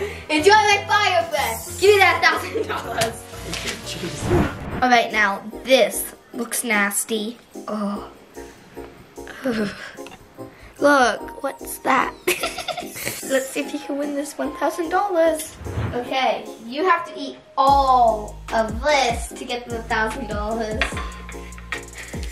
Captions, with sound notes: - It feels like fire breath. Give me that thousand dollars. - Alright now this looks nasty. Oh. Look, what's that? (giggles) Let's see if you win this $1,000. Okay. You have to eat all of this to get the thousand dollars.